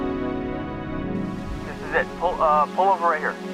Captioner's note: conversation over radio